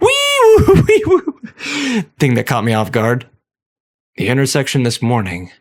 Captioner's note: laughter